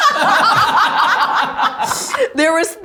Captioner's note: everyone laughs